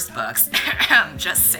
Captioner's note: 𝘤𝘰𝘶𝘨𝘩𝘴